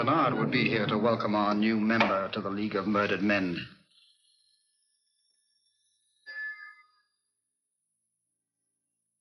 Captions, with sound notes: to welcome our new member to the league of murdered men. (bell rings)